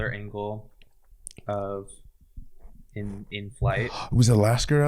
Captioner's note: gasps